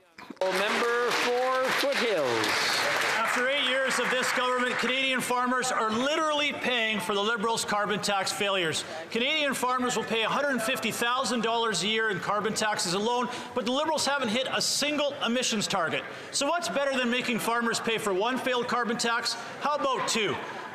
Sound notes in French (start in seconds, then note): 6.0 voix de l'interprète